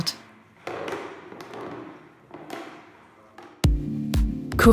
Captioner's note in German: Knarzgeräusche